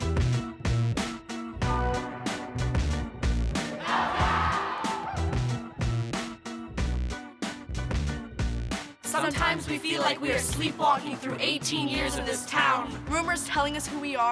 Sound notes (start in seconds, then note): 3.5 upbeat music; 6.2 crowd chants